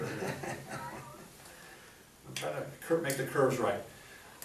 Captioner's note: laughs